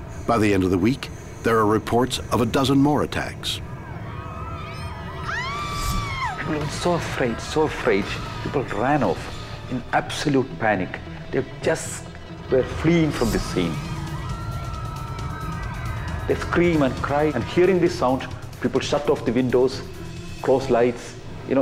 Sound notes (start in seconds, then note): 3.2 people screaming; 5.6 woman screaming; 14.2 people screaming